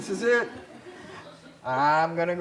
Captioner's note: laughter